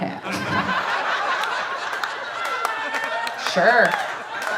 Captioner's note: audience laughing